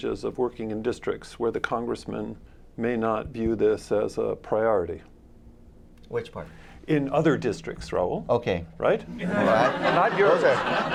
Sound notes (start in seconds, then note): 9.2 laughter